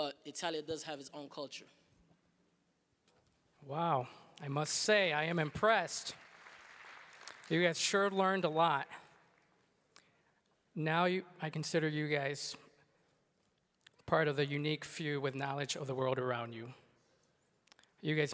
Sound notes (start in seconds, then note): 5.0 applause